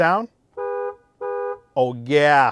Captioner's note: horn beeping